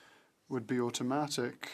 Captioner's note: speaking French